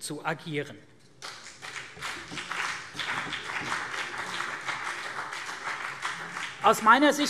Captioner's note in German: Beifall CDU und BÜNDNIS 90/DIE GRÜNEN